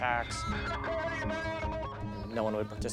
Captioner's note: man speaking on radio